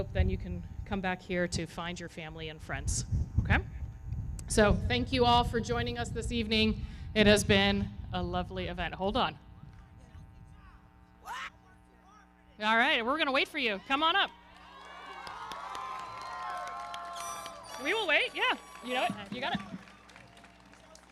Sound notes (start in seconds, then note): 9.8 indistinct yelling and chattering; 13.7 audience cheering; 14.2 everybody clapping